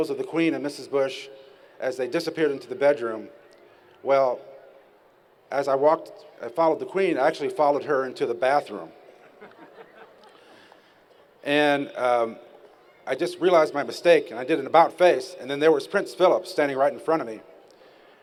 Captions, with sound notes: of the Queen and Mrs. Bush as they disappeared into the bedroom Well, as I walked I followed the Queen I actually followed her into the bathroom. [laughter] And a I just realized my mistake and I did an about face and there was Prince Philip standing right in front of me.